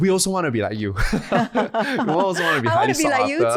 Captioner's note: laughing